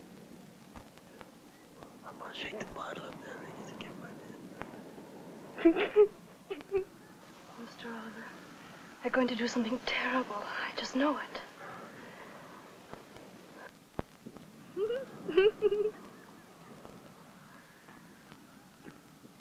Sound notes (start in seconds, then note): 2.1 whispering; 14.8 Judy giggling